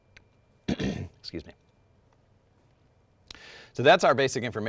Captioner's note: clears throat